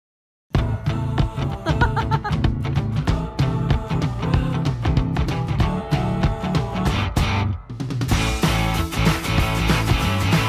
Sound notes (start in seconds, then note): 0.5 upbeat music; 1.5 laughing